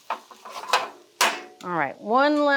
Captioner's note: pan clanging